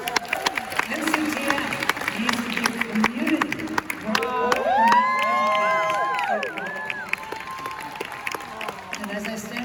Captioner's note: cheers and applause; cheers and applause